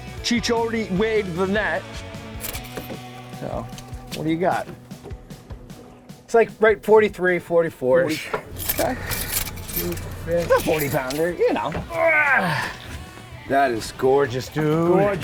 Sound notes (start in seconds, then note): 11.9 groans